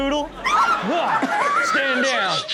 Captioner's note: person screams